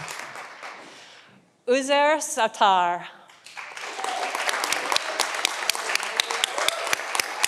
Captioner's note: audience applauding